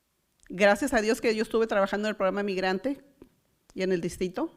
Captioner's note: foreign language